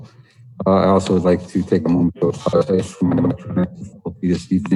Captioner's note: murmur